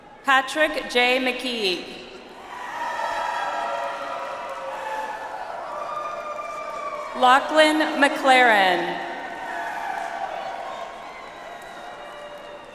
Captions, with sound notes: Patrick J. Mceigue. (audience applauds) Lachlan McLaren. (audience applauds)